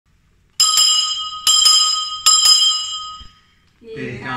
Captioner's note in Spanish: suena la campana tres veces